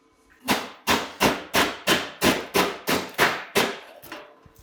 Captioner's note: hammer banging